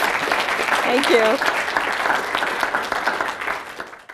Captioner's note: applause